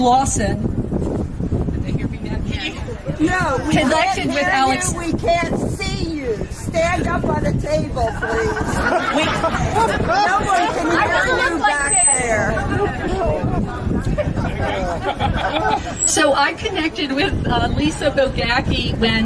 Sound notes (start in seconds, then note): 11.9 laughter